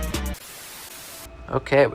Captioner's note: static